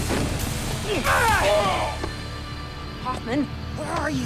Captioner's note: man in bandana cries out